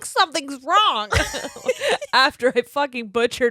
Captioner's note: laughing